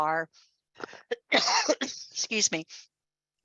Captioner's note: coughs